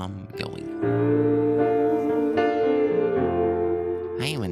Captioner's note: A million oohs